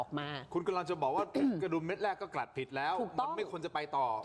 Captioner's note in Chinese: 咳嗽声